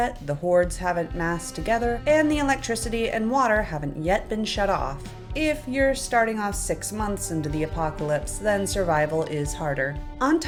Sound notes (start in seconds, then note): none